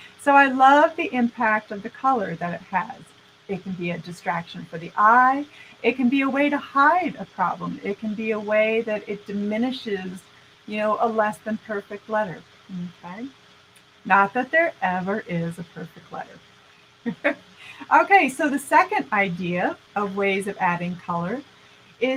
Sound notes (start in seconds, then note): 17.1 laughing